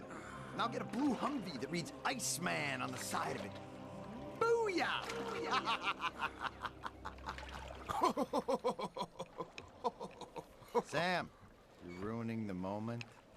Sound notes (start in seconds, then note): 5.4 evil laugh; 7.8 not-so-evil laugh